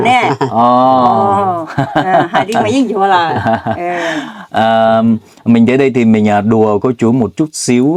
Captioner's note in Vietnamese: tiếng cười